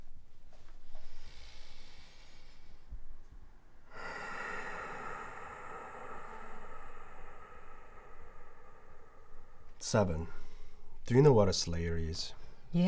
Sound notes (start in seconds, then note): 3.8 long exhale